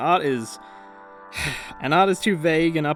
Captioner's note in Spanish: suspiro